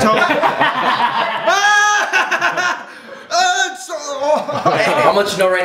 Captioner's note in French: Rires; gémissements